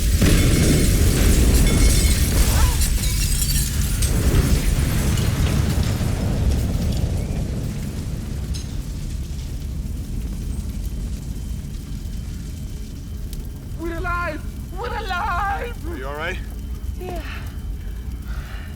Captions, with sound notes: (Nadia grunts) - We're alive, we're alive! - Are you all right? - Yeah.